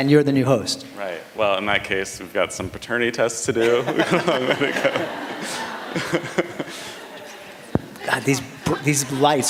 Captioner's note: laughter